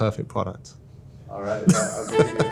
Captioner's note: laughs